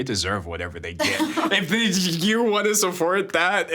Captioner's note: laughing